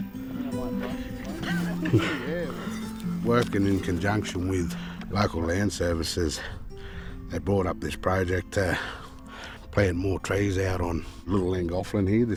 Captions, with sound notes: (people laugh) - Working in conjunction with Local Land Services they brought up this project to plant more trees out on Little Llangothlin, here,